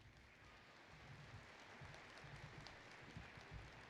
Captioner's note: applause